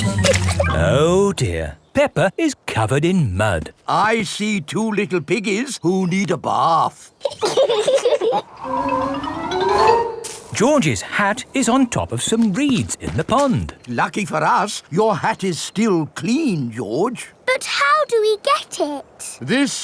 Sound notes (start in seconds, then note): 0.2 chuckles; 7.3 both laughing